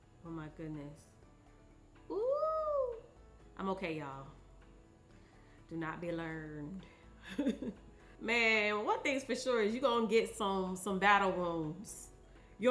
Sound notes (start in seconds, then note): 7.2 chuckles